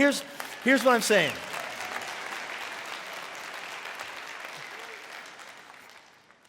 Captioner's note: congregation clapping and cheering